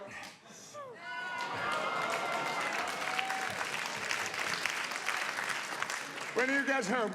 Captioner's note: audience applauding